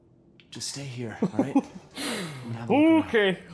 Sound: chuckles

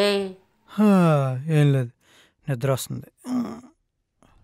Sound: yawning

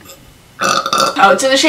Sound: burps

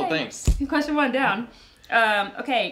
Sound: hands clapping

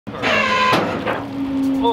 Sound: cable creaking; winch whirring

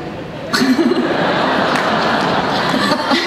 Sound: everyone laughs

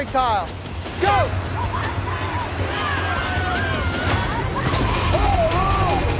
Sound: screaming and yelling

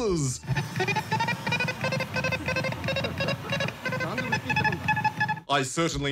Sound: electronic beeping

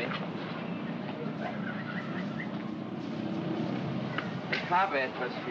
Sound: city street sounds

